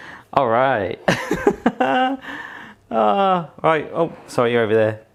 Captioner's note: laughing